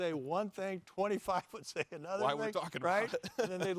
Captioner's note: laughs